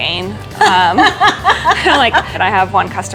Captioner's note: laughing